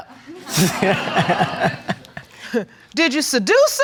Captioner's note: audience laughing; laughing